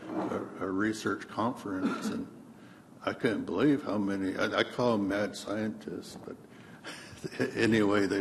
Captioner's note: laughs